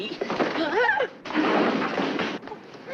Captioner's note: Eleanor shouting; chairs crashing